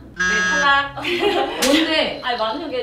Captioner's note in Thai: เพี๊ยะ!!